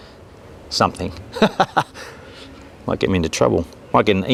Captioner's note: laughing